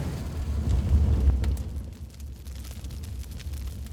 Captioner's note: fire whooshing; fire burning